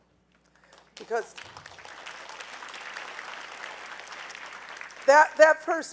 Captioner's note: audience applauding